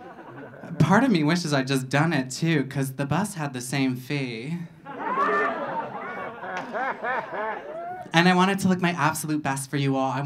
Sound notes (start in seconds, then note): 4.8 audience laughing